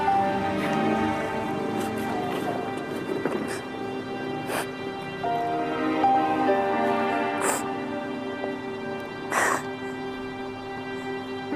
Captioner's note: sobbing